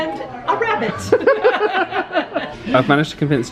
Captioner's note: both laugh